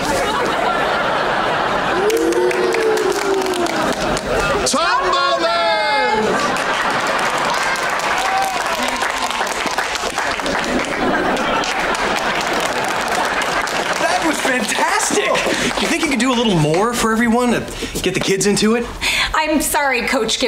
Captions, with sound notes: Ooh. [clapping] Tumblemans! [clapping] [clapping] That was fantastic. You think you could do a little more for everyone to get the kids into it? I'm sorry, Coach Gibbons,